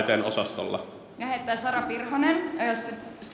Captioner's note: speaking Swedish